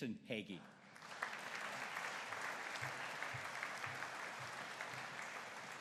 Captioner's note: audience applauding